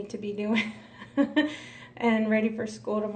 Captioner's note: laughs